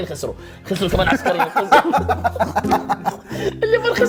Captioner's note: laughter